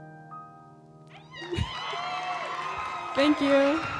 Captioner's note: cheering